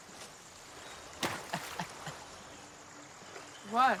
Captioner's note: Eddie laughs